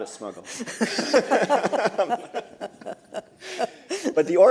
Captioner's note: laughter